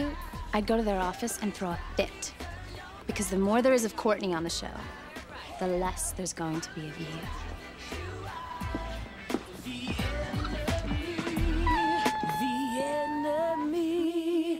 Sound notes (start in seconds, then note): 8.4 whimpering